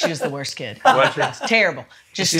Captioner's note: laughs